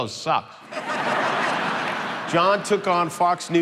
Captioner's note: crowd laughing